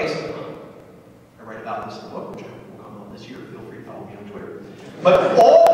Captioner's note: laughter